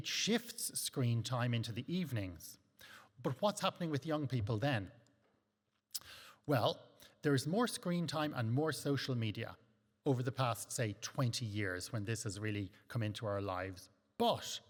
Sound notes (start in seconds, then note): 5.9 lips smack